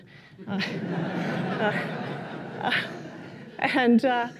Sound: laughter

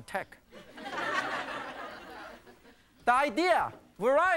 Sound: audience laughing

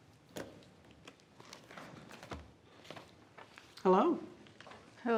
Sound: paper crackling

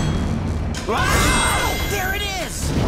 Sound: screaming

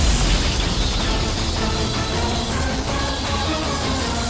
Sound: whirring sound

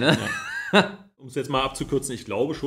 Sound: laughs

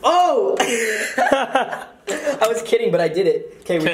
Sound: laughs

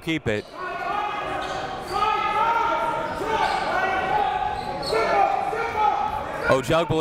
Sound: crowd talking; coaches yelling

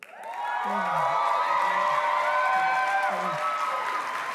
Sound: applause

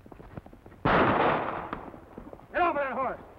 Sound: gun fires

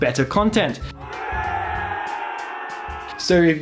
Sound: celebration cheers

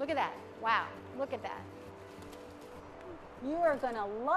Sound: wings rustling

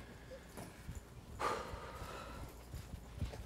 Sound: sighs

